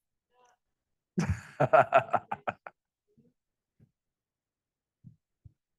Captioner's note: professor laughing